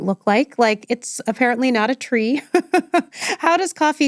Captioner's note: laughs